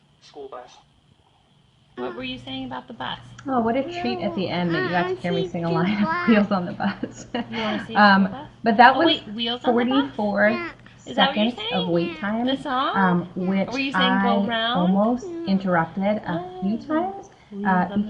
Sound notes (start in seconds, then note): 3.9 voiceover